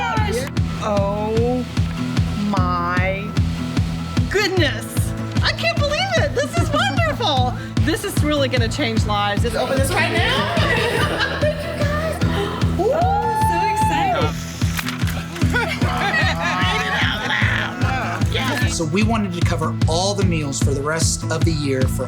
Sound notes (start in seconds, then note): 9.5 all laughing; 12.0 gasping; 14.8 all laughing